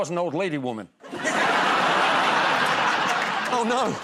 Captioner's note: laughter